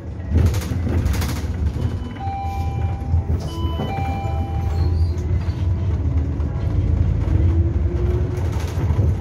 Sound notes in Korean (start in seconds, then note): 2.1 하차벨 소리